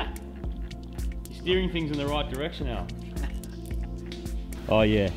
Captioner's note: chuckles